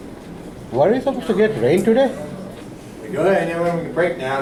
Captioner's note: voiceover